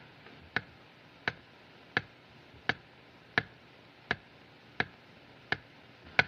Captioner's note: steady Ticking; ticking Continues